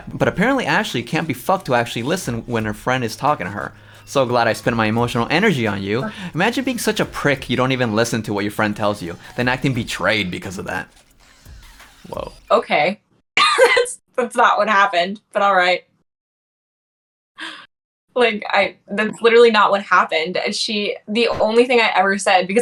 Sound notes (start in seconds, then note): 13.1 laughs